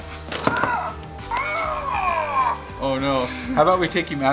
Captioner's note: toy groans